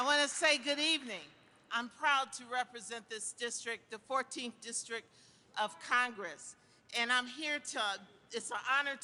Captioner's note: applause